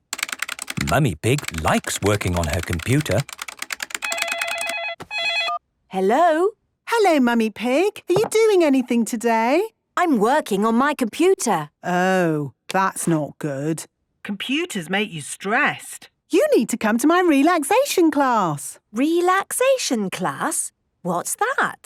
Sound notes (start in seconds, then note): 3.8 phone ringing